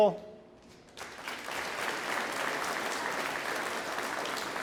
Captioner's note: audience applauds